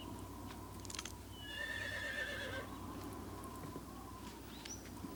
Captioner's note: horse neighs